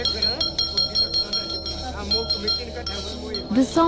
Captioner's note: intense bell jingling